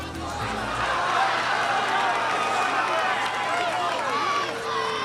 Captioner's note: crowd laughs and applauds